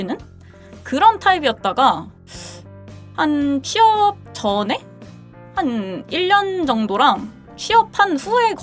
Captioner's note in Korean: 콧방귀